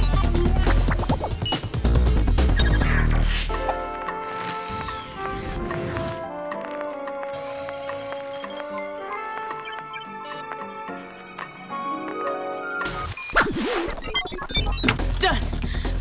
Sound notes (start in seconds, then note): 6.6 beeping